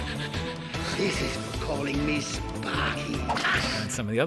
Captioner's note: crack